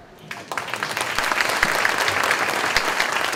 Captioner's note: clapping